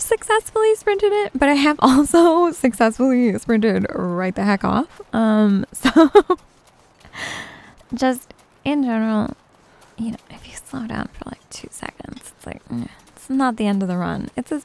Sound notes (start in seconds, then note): 5.8 giggles